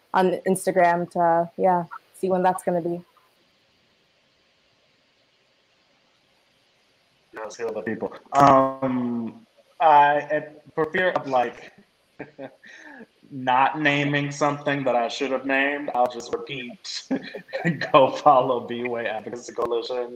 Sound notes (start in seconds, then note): 12.2 laughs